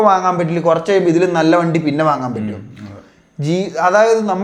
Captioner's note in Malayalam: തൊണ്ട ശരിയാക്കുന്നു